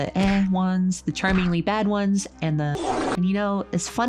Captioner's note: loud farting